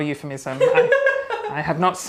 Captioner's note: woman laughs